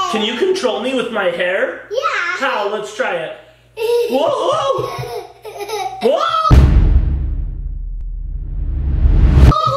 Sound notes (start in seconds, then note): 4.4 laughing